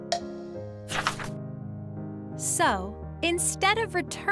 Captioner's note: paper crinkling